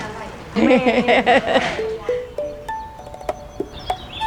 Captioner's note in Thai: เสียงหัวเราะ